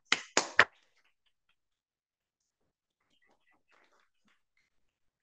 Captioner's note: speaker applauding